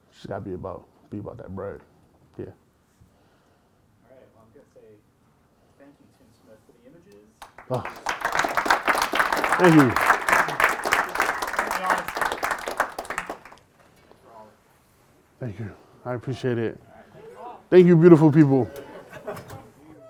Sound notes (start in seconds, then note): 7.4 applause